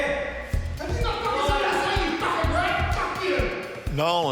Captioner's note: shouts